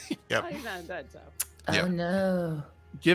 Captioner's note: speaks faintly